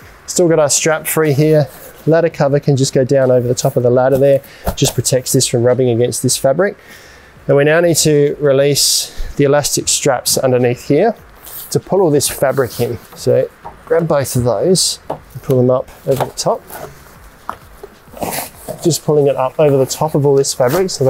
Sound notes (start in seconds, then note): 17.8 fabric rustles